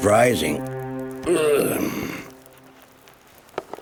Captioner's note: grunting